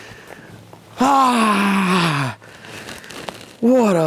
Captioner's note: yelling